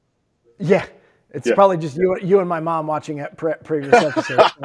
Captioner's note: laughter